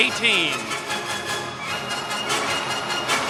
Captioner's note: cheers and applause